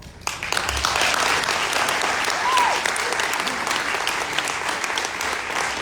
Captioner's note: audience applauding